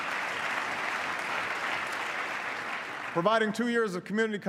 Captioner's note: applause